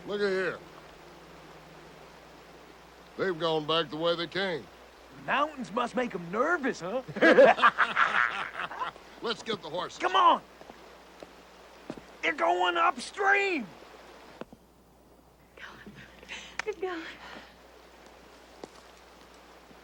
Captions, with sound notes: - Look it here. They've gone back the way they came. - The mountains must make 'em nervous, huh? (both laugh) - Let's get the horses. - Come on! They're going upstream. - They're going. They're going!